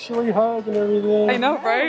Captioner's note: murmurs